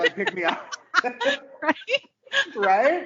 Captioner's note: laughing